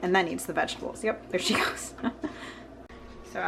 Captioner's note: laughter